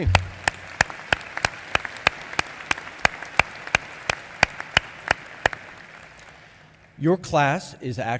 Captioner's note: applause